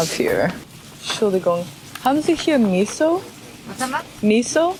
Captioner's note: German